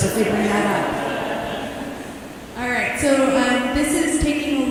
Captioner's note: laughter